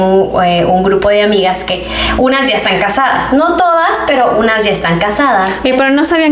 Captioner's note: sighs